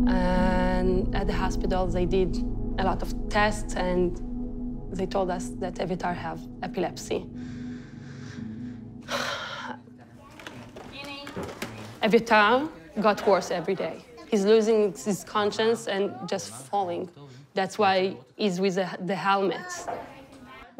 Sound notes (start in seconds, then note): 9.0 sighs